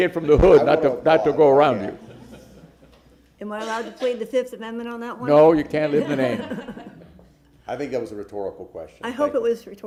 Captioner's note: laughter